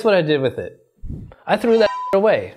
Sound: air whooshing; beep

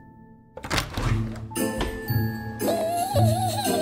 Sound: cabinet opening; elf giggling

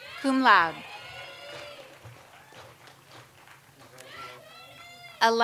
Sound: audience applauds

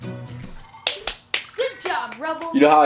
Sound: assistant applauding

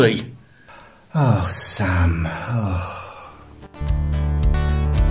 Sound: sighs

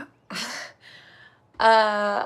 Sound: Sam chuckles

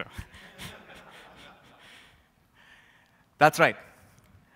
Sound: laughter

